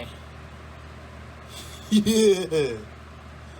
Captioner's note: Ella laughs